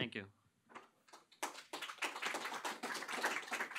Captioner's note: applause